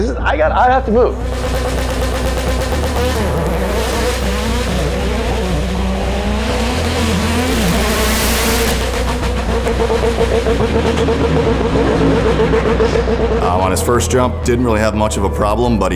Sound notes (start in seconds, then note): 3.2 engine revving